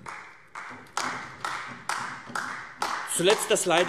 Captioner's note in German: Beifall AfD